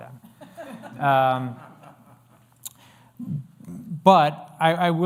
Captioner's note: laughter